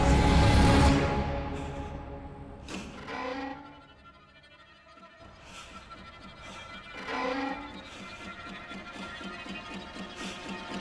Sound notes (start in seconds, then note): 0.0 tense music intensifies; 6.2 clock ticking